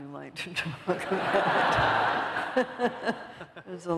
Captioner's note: laughter